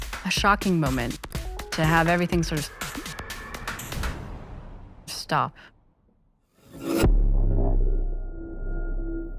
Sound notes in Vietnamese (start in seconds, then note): 3.7 tiếng rầm kịch tính